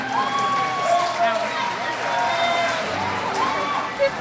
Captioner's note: crowd cheers